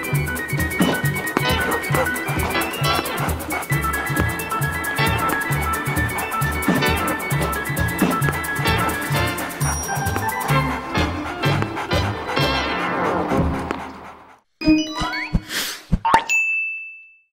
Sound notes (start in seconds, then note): 1.5 dog panting; 14.5 bells chiming